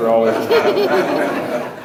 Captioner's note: audience laughs